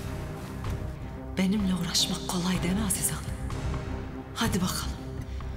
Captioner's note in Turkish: İçinden konuşuyor